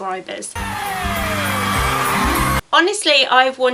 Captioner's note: cheering